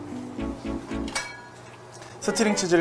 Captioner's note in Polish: brzdęk